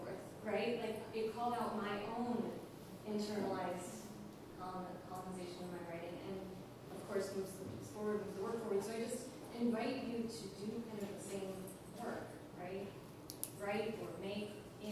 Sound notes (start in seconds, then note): none